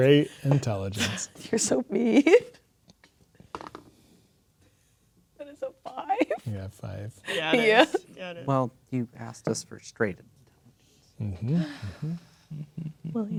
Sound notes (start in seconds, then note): 3.3 dice rolling; 11.2 chuckling